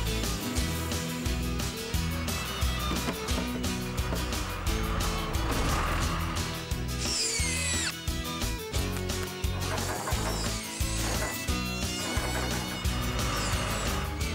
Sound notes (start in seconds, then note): 2.3 engine Running; 6.6 drill Whirring; 10.9 engine Running